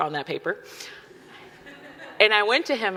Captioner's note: audience laughing